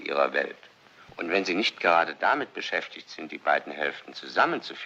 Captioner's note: none